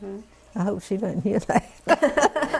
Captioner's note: laughter